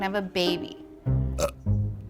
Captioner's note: burps